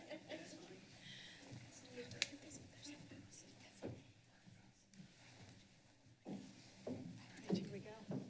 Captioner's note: laughter; background chatter